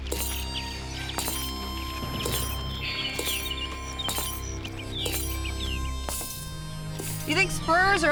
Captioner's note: spurs jangling